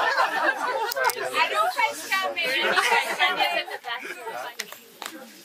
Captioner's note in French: rires